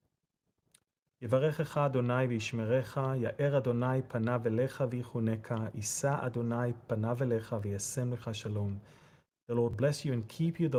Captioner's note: Aaronic blessing in Hebrew